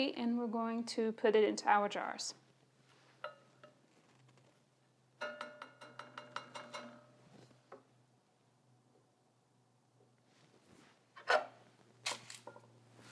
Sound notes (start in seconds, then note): 5.2 taps utensil